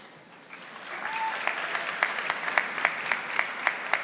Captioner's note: audience applauding